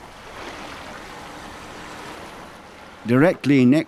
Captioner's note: waves lapping